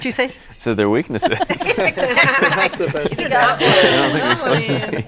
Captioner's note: all laughing